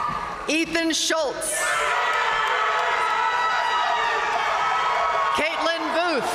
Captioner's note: audience cheering and applauding